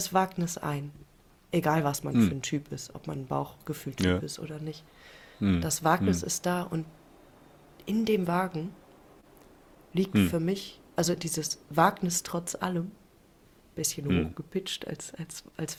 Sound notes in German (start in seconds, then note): 13.8 räuspern